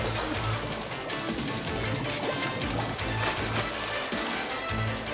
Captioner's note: water bubbling